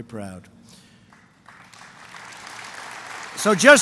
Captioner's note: applause